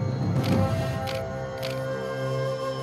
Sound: camera clicks

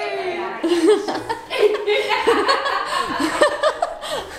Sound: laughing

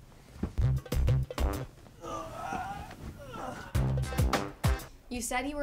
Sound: grunting; upbeat music

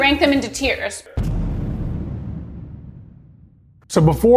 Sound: noise thuds

